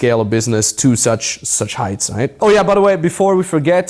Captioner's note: murmuring